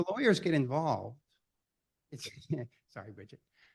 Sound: chuckle

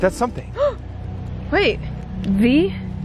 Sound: gasps

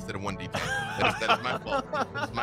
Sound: laughs

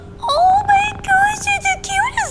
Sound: laughs

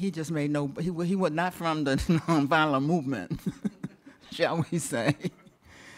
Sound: chuckles

